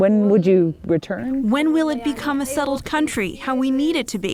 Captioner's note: through translator